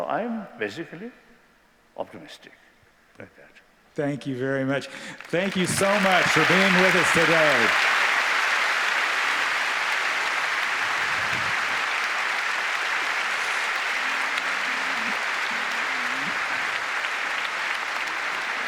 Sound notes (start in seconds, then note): 8.3 applause